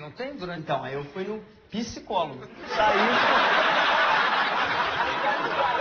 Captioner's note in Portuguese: plateia ri